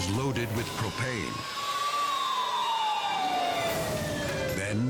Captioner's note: sirens wailing